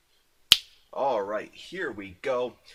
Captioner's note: snaps fingers